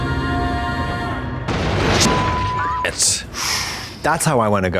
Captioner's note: chilling music; plane exploding; beep